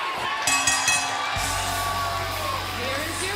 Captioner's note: bell ringing